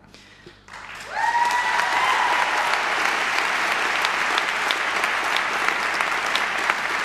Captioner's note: people clapping; people cheering